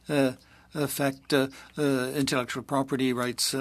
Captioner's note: speaking French